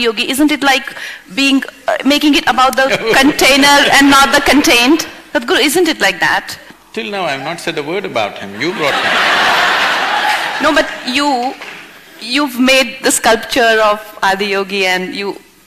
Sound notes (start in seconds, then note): 8.6 laughter